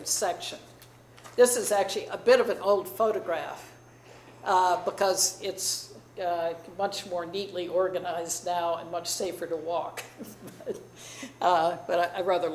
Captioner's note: chuckles